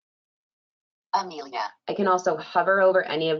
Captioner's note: computerized Voice